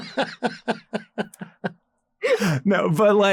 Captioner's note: laughs